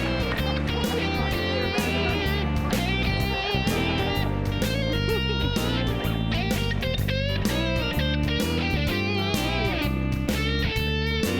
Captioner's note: applause